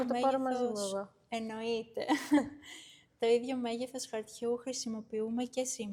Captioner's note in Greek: γέλια